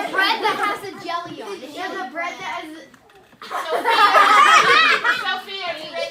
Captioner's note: laughter